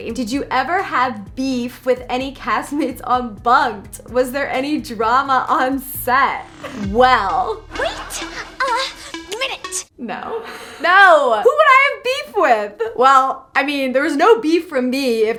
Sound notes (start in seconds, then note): 10.3 laughs